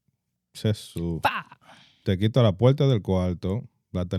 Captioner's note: speaking In Foreign Language